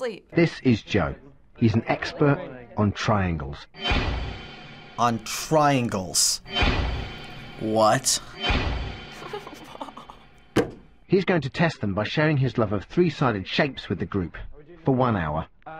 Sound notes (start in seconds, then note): 6.2 dramatic music; 9.1 chuckles